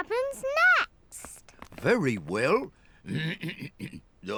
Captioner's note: clears throat